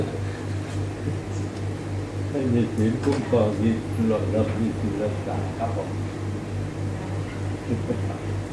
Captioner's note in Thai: พูดคุย